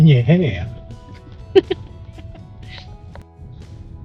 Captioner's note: laughing